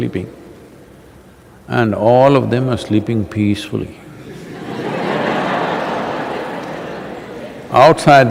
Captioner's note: laughter